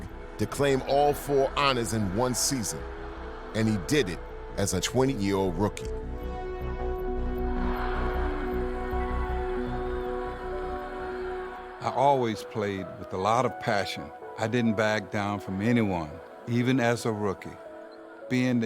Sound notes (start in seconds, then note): 7.4 triumphant music; 7.4 crowd cheering